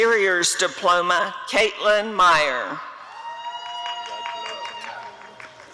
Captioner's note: applause and cheering